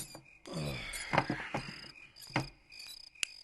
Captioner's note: sighs